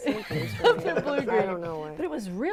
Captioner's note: laughing